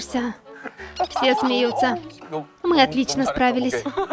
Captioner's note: laughing